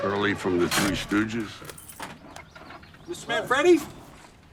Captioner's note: brake cranks